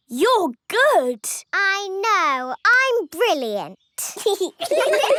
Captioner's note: giggling; laughter